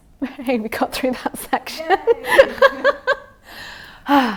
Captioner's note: laughing; sighs